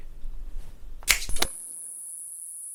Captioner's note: magical finger snap